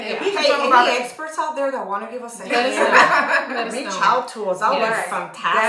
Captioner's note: laughter